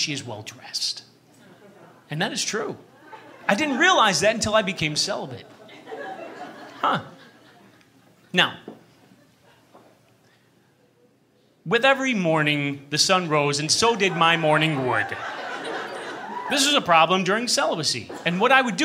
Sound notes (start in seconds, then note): 5.4 thoughtful laughter; 14.0 laughter